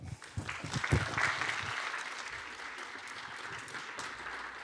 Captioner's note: attendees applauding